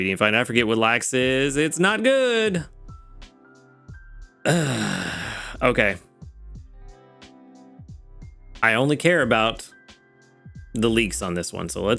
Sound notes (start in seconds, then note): 4.4 sighs